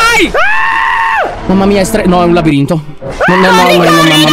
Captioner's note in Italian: urla